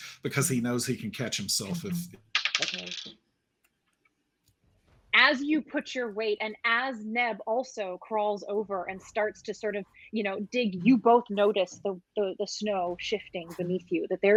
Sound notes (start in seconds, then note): 2.4 dice clacking